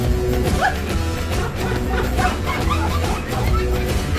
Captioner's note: audience laughs